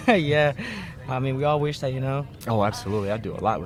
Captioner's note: laughs